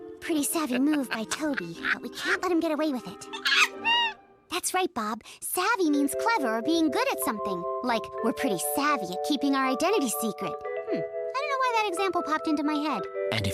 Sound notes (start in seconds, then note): 0.3 Tobey cackles in the background; 3.3 Bob chatters curiously